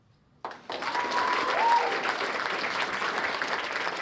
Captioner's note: applause